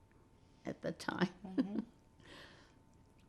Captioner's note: laughing